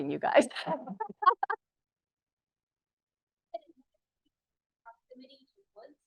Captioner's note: laughs